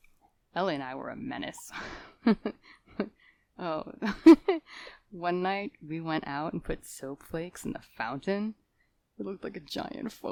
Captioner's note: thoughtful laughter